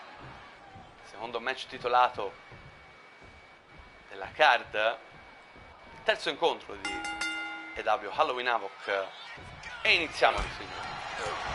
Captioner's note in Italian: campana